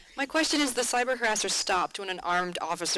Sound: voiceover

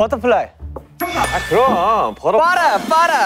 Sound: ding dong

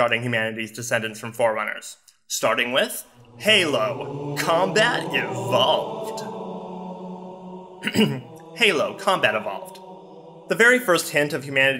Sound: ahem

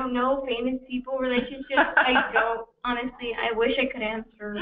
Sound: laughter

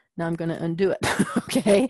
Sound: laugh

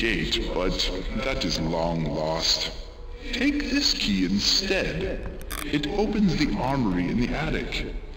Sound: water jug hitting microphone

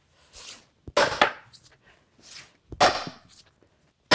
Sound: hammer striking

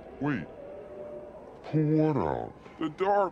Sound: slowed-down voice; slowed-down voice

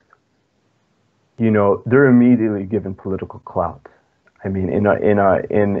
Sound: speaking foreign language

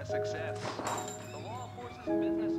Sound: dinging; melancholy music

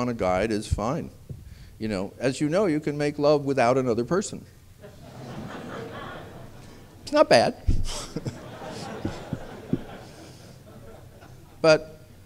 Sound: laughter

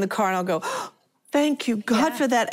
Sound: gasps

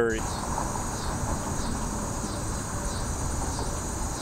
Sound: cicada chirping

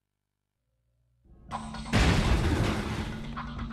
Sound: crash!

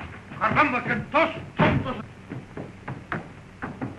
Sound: Spanish spoken audio

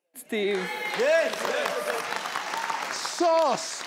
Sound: cheering

